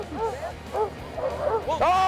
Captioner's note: dogs barking